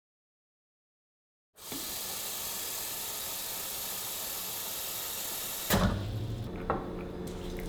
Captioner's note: water filling